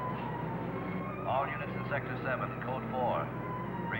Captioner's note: man On Radio